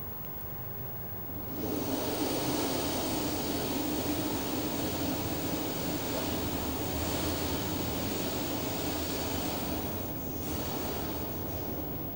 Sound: shri mataji blows into the microphone

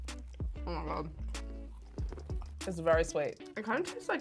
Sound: snack crunching

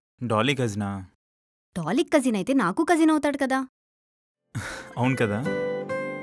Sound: Mahendar gasps

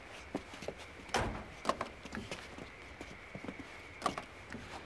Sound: door slams

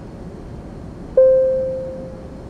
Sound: ding

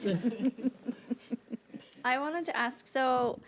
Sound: audience laughing

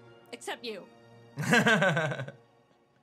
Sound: laughs

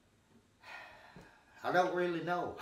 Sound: sighing

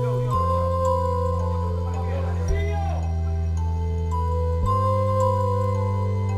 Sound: people chattering; gentle music

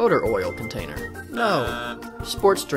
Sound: buzzes

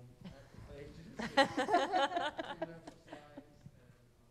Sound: laughing

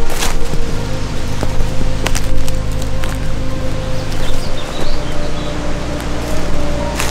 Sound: wood crunching; birds chirping

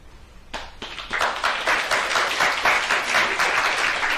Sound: applause

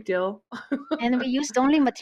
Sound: laughs

